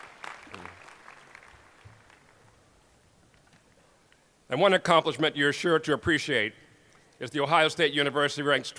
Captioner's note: applause